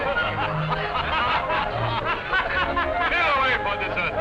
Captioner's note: laughter